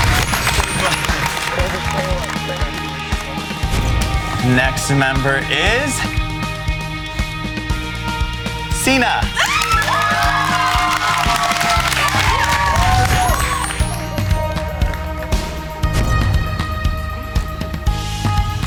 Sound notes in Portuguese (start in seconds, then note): 9.3 Gritos